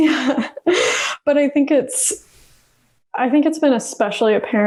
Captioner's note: laughs